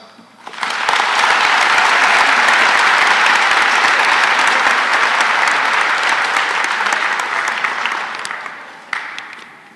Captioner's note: applause